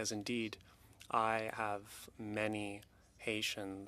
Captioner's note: speaking French